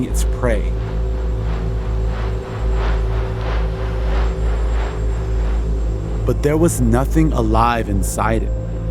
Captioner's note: soundbite of drone flying